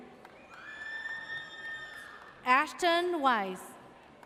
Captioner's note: audience cheers